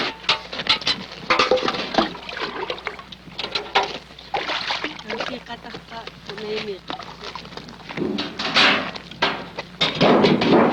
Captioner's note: buckets clanging